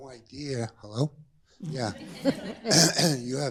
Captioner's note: laughter